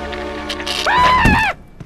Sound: yells

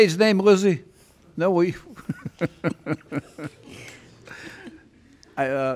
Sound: Judge Caprio laughs

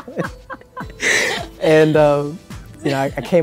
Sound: both laugh

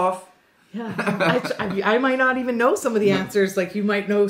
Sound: both laughs

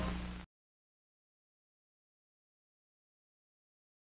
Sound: silence

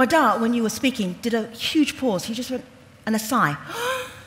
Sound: sighs

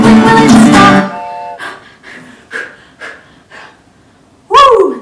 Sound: train honks; gasping

